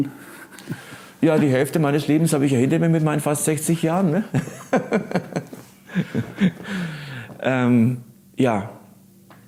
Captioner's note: laughing